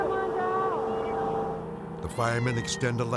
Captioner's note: cat mewing